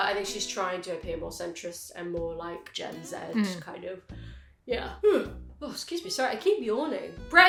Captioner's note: yawns